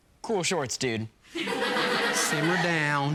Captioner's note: class chuckling